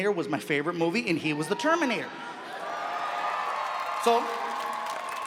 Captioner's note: audience cheering